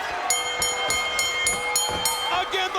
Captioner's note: bell rings